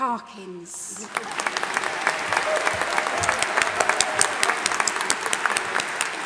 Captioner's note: audience applauding and cheering